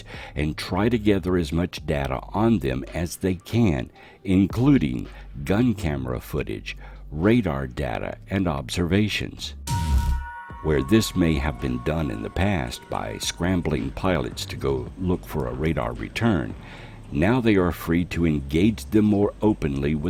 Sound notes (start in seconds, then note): 9.6 electronic buzzing